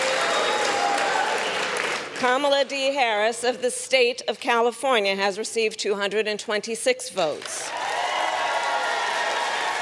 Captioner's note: applause